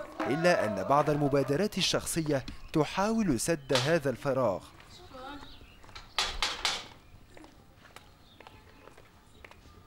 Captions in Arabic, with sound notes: إلا أن بعض المبادرات الشخصية تحاول سد هذا الفراغ *دق الباب*